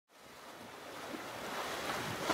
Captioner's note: ocean Sounds